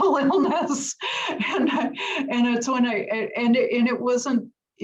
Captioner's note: laugh